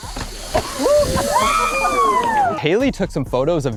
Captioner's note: everyone cheers